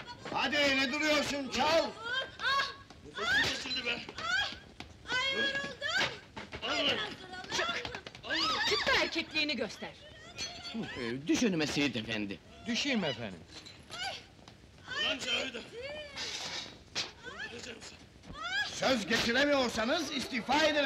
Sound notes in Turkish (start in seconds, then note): 1.9 kadinin çiğlik sesleri̇